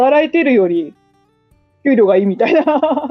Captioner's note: laughs